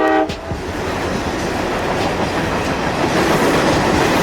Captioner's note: train hoots; train rattling